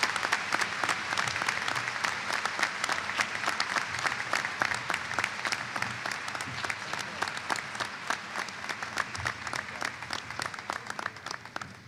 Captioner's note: applause